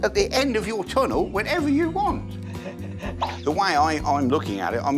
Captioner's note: laughing